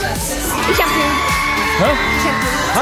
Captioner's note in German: Jubel